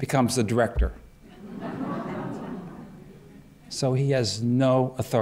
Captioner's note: laughter